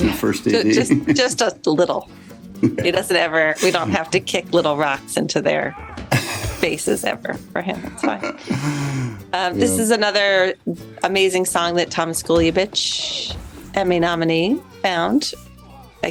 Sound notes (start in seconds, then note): 6.1 laughs